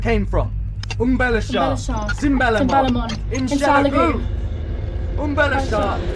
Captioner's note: both speaking in foreign language; Alan speaking in foreign language